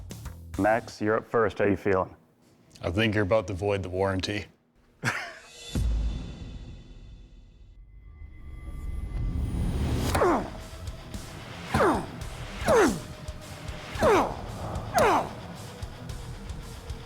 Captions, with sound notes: Max, you're up first. How you feeling? I think you're about to void the warranty. [chuckles] [grunting]